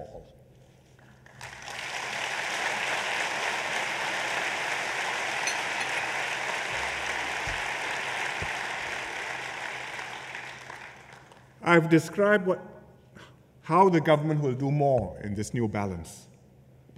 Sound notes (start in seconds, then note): 0.9 applause